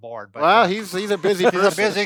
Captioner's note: laughs